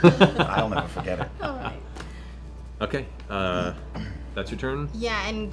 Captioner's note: laughs